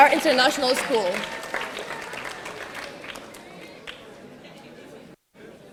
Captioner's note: audience applauding